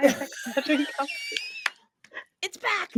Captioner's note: all laughing